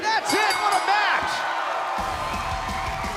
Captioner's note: bell; cheers & applause